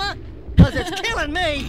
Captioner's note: laughter